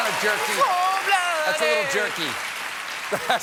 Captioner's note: cheers and applause